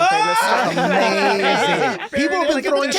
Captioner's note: laughing